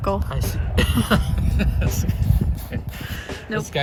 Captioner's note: chuckles